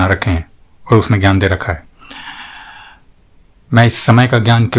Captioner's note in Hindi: गहरी सांस लेने की आवाज़